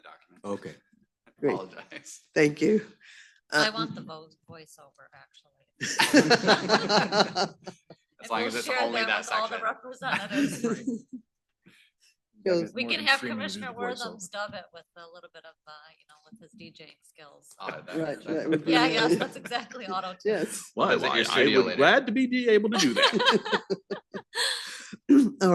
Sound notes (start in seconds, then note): 5.8 laughter